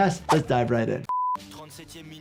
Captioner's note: screen beeping; commentator speaking in foreign language